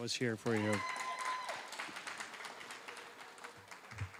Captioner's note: applause